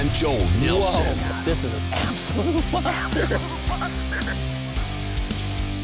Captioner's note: voiceover